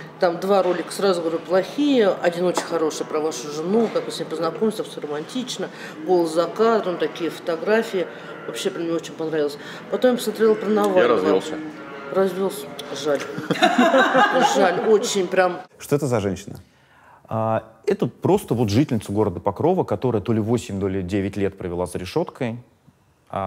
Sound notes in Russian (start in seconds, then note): 13.4 все смеются